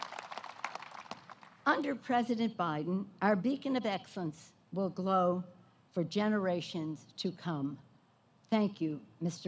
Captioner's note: applause